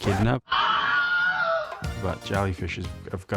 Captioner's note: screams